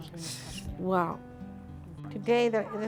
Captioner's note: speaks in foreign language